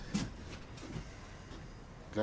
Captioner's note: none